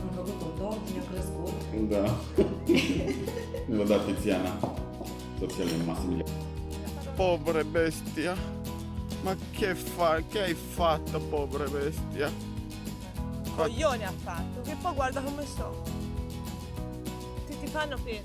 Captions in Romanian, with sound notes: Am făcut un tort. Mi-a crescut. Da. Ni l-a dat Tiziana. Pobre bestia! Ma che hai fatto? Ha fatto un coglione. Che guarda come so ... [vorbind italiană]